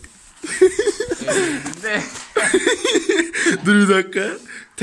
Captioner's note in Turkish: gülüyor